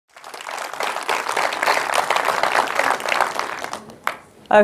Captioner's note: audience applauding